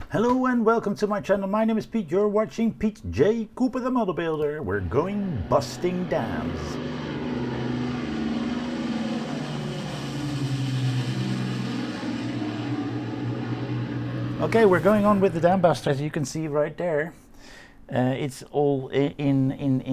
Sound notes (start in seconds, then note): 6.7 plane engines